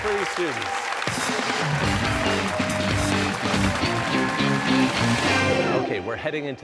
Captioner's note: cheers and applause